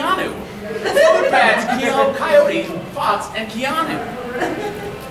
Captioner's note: audience laughing